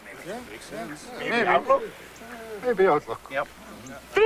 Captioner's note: murmurs of agreement